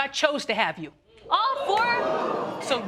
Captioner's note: audience gasp